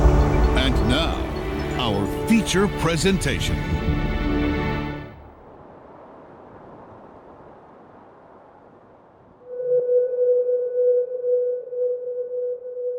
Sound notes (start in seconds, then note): 5.8 whooshing sound; 9.8 suspenseful music